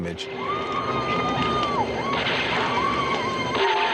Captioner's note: people yelling